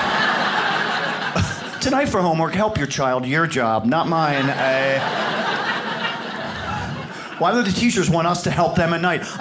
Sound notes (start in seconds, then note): 0.0 audience laughs; 4.0 audience laughs